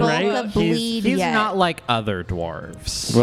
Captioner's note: kind of laughing as she speaks